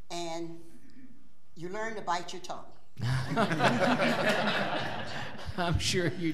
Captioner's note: laughing